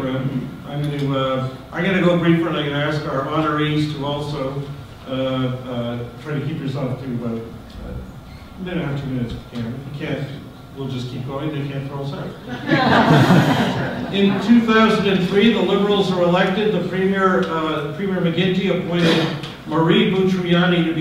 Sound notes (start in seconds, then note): 12.4 audience laughter